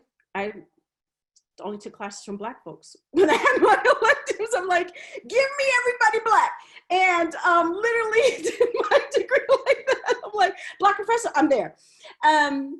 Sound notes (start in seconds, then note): 3.2 laughs